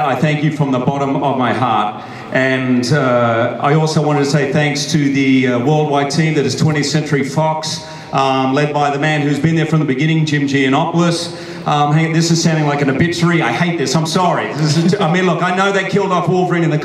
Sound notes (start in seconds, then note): none